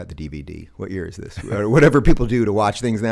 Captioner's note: chuckles